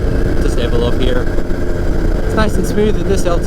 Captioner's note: murmurs